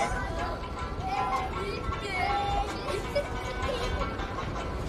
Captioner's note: kids playing, laughing